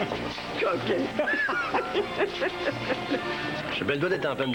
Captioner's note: Rires